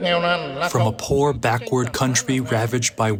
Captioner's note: through translator